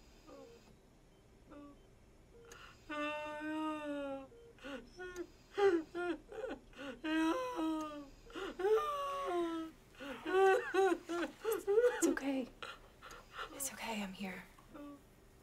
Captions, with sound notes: - No, no. (Nia sobs) - It's okay. It's okay, I'm here.